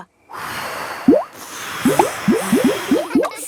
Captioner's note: all blowing